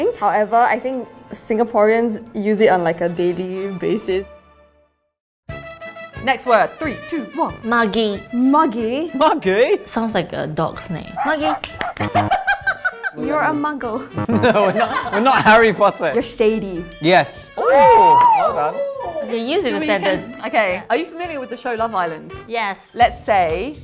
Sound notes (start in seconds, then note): 5.5 cheerful music; 11.1 dog barks; 11.2 laughs; 11.5 claps hands; 14.0 buzzer buzzes; 14.2 laughs; 16.9 bell dings